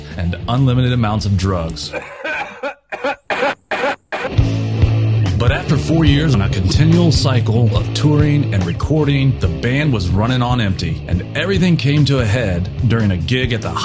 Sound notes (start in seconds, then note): 1.9 coughing noises